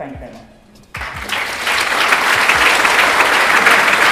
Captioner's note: applauding